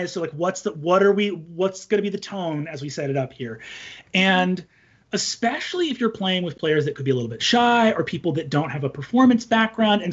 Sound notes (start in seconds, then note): none